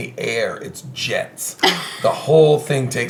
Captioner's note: laughing